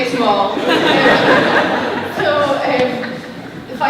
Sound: laughter

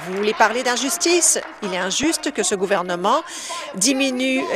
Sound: applause

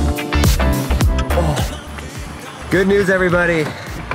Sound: grunts

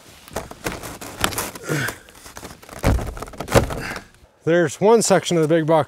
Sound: banging panels

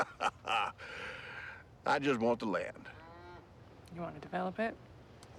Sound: chuckling

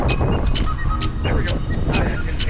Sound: rhythmic clapping; rhythmic whistling

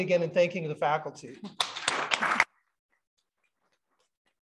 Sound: applause

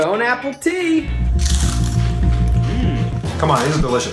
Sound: crunching

